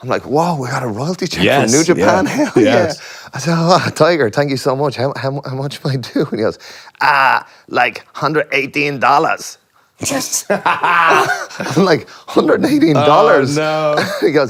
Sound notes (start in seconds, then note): 10.1 Cody laughs